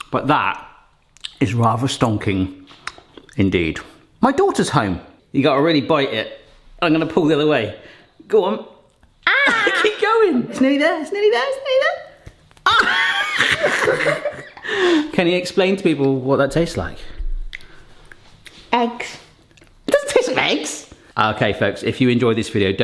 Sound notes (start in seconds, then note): 12.6 both laughing